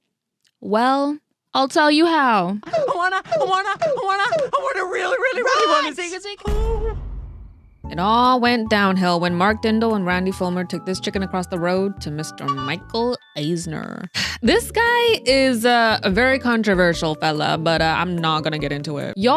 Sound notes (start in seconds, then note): 6.4 boom; 14.2 sigh